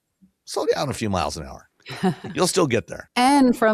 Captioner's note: laughs